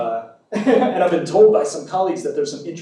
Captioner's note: laughs